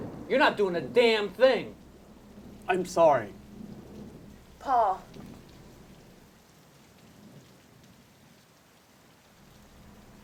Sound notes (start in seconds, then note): 5.5 rain pattering